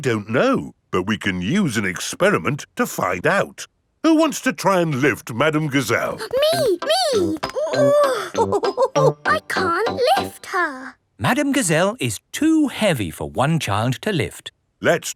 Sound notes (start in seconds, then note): 8.0 chuckles; 8.0 straining